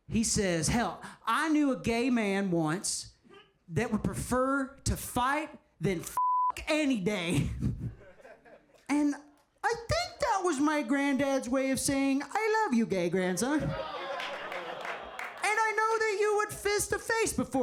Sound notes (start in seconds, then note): 6.2 beep